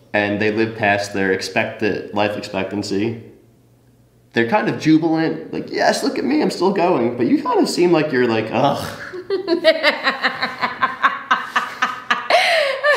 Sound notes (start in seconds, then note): 8.7 sighs; 8.8 interviewee laughs